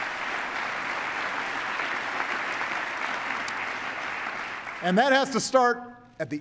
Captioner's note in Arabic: تصفيق